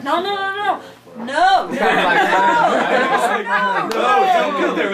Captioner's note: laughing